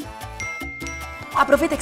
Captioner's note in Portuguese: barulho de mensagem